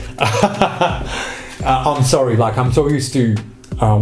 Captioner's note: laughs